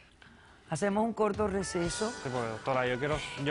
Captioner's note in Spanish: none